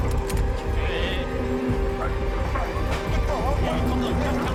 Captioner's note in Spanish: Exclamaciones